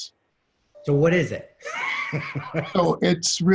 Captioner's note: laughter